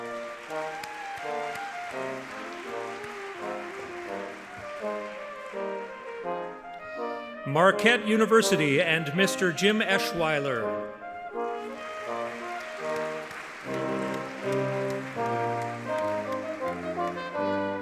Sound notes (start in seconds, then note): 2.8 audience clapping; 14.6 audience clapping